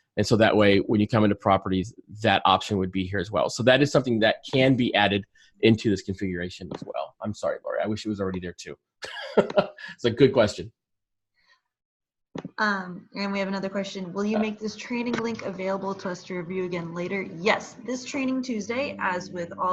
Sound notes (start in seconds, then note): 9.0 laughter